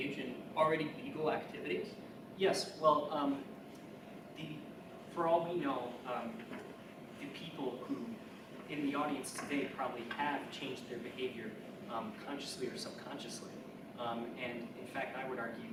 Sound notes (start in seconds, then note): none